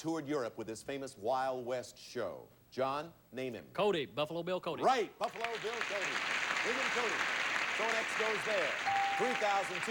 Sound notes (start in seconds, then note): 6.9 audience applauding